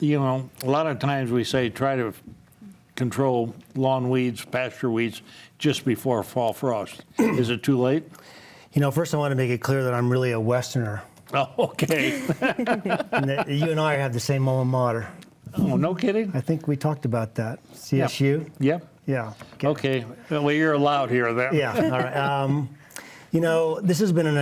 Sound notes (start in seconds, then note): 11.6 chuckles; 11.7 laughs; 21.5 panelists laughing